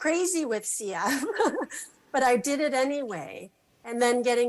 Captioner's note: laughs